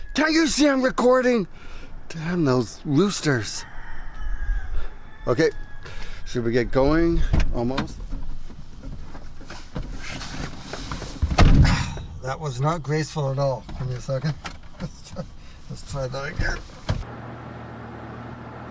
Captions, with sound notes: Can't you see I'm recording? Damn those roosters. [rooster noise] Okay, should we get going? Almost. [thud] That was not graceful at all. Give me a second. [chuckles] Let's try that again.